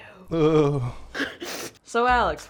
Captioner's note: whispered; snort laugh